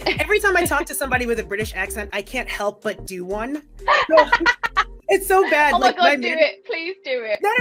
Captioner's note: laughs